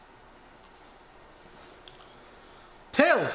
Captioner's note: soft clinking